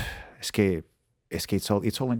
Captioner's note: speaking Spanish